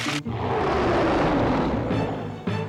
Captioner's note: Scarface growls; intense music